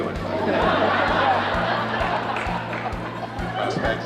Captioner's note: crowd laughs